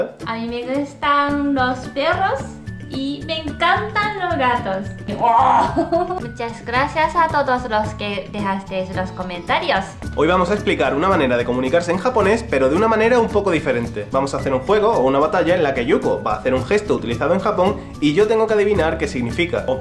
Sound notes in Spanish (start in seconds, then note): 5.1 Wooooo